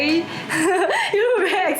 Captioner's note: laughter